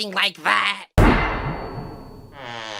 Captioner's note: loud thud sound; stretching sound effect plays